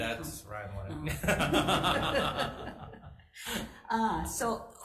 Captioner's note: both laughing